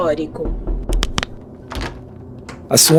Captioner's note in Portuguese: batida na porta